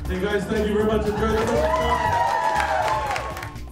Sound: cheers and applause

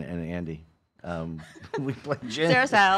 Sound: laughing

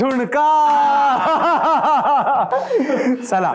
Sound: laughter

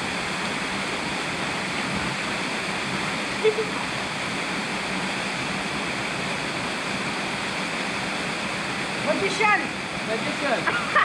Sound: gushing water

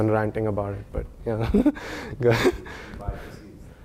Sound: laugh

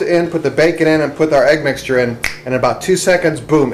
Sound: snaps

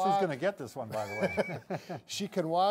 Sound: laughs

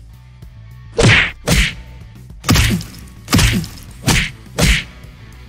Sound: punching

